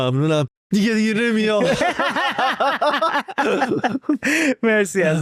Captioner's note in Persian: خنده